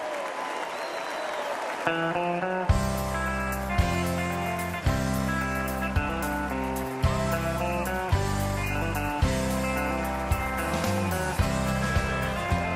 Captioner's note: applause